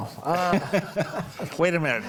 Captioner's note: group laughs